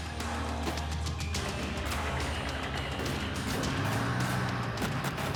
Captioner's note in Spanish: tiroteo intenso; ruido de la ambulancia